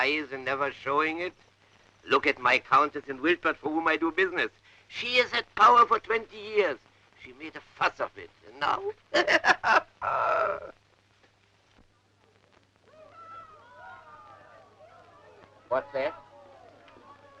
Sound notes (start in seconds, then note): 9.1 laughs; 12.8 crowd shouting